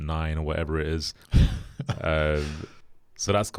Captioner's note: chuckles